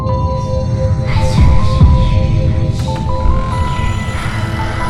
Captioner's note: child whispering